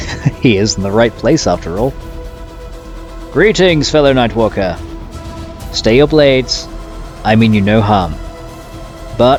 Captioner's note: laugh